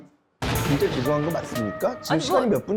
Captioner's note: thunder